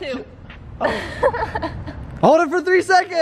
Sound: laughing

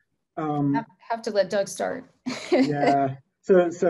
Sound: laughs

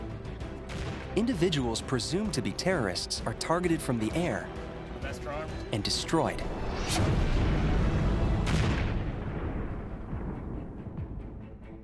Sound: woosh! Explosion

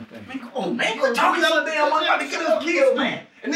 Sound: shouting over each other

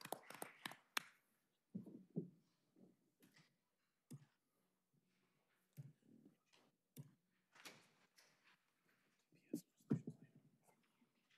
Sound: applause

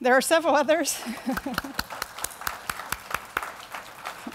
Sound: crowd applause

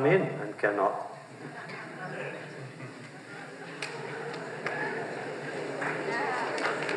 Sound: laughter

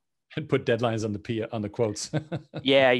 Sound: laughs

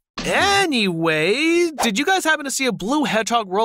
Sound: none

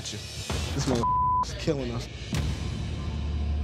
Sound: beep

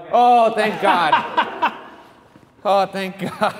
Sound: laughing; laughing

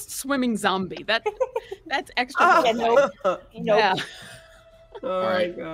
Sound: all laughing

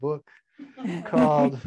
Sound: laughing

